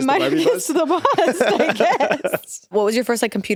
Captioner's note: both laughing